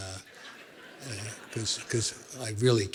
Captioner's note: laughter